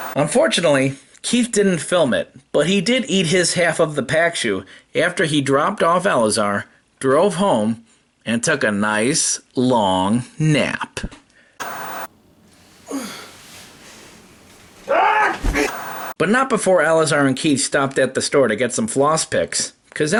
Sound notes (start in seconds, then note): 12.5 grunting; 15.2 yelling